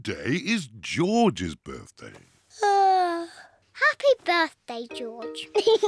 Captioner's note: yawns; laughs and oinks